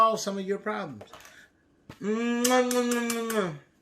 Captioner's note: kisses